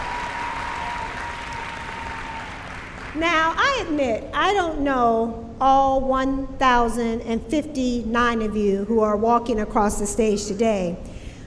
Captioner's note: cheering